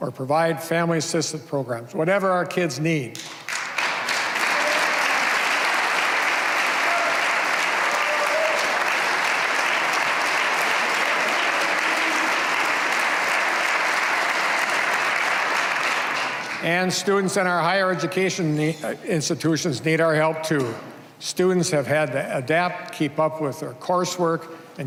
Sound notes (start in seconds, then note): 6.5 cheers and applause